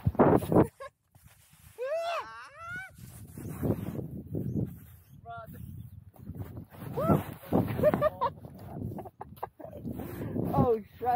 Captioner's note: feminine screams and laughs